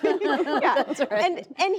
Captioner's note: laughter